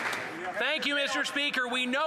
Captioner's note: some Applause